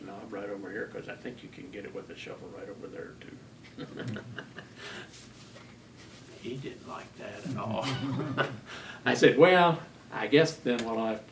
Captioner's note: laughter